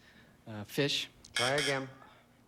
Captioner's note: buzz buzz